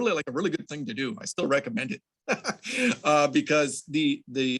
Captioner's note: laughs